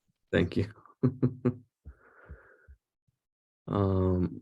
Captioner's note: laughter